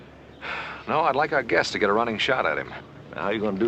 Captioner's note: sighs